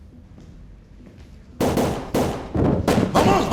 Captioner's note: gunfire